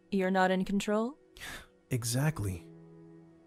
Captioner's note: sigh of relief